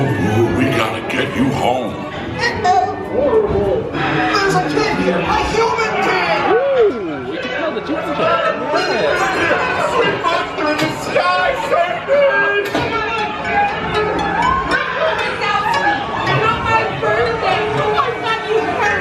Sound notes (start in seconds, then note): 9.3 voice fades; 13.7 ride characters chattering